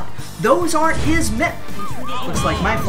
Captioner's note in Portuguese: sirenes da polícia